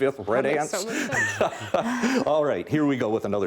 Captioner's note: laughing